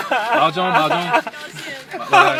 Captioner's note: mandarin